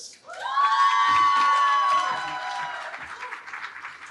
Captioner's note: cheering